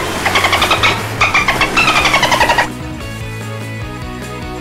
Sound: splash; dolphin sound

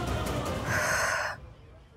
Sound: sighs

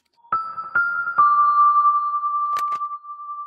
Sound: logo chiming

